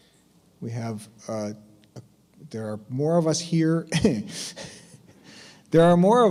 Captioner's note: chuckles